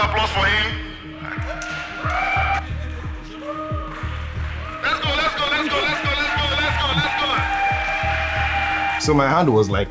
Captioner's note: crowd cheering